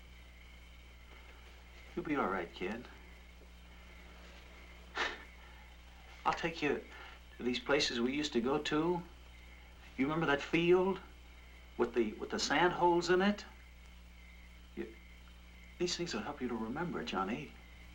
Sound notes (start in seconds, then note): 4.9 chuckles